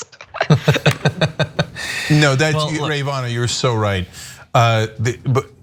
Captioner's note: laugh